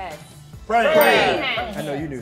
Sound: bell dings

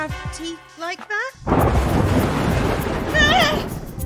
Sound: thunder

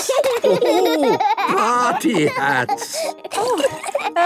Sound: laughing

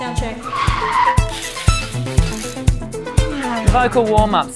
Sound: car racing

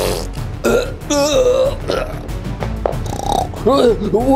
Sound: boxers groaning; Bugs snoring

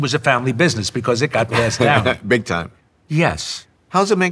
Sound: laughs

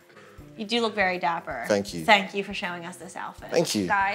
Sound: laughing

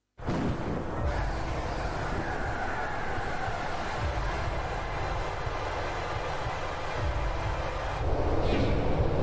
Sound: loud, sustained sweeping noise

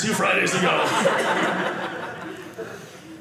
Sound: audience laughing

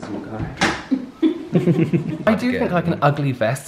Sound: pretending To Laugh

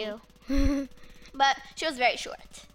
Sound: laughs

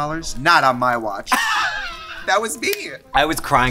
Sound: laughs

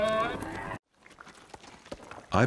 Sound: camels grunting; sounds of falling pebbles

